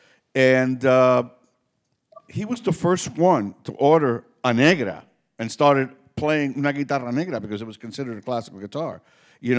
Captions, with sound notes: And he was the first one to order an Negra and started playing (speaking Spanish) because it was considered a classical guitar.